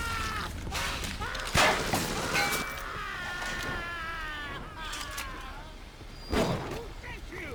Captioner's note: screaming